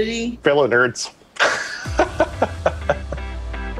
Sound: laughs

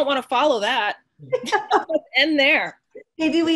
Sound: laughing

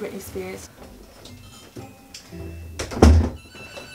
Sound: door shuts

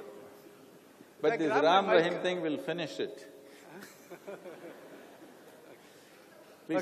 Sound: laughter

